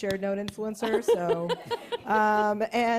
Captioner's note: laughter